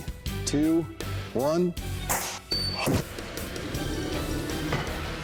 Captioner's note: whoosh, clang